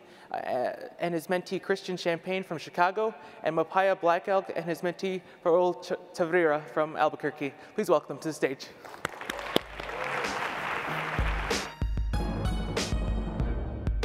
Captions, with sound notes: and his mentee Christian Champagne from Chicago, and Makpia Blackelk and his mentee Pervel Tavira from Albuquerque. Please welcome them to the stage. (audience applauds) (R&B music)